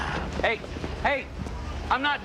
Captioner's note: Joe sighing